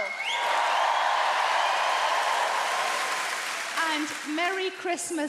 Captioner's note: audience cheering